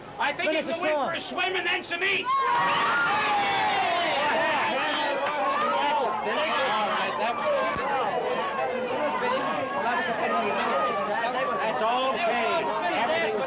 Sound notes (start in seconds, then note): 2.4 cheers; 6.2 lively chatter